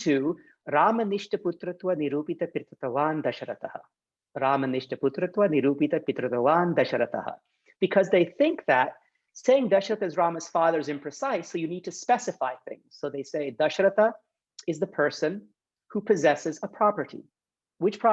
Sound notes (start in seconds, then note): 0.7 speaks in Sanskrit; 4.6 speaks in Sanskrit